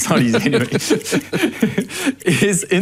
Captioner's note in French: les deux rient